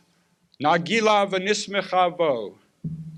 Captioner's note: Hebrew